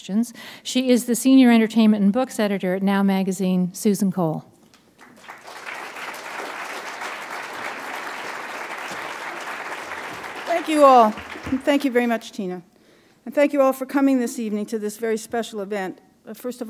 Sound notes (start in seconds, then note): 4.8 applause